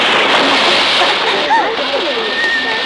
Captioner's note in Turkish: Kızların gülüşmeleri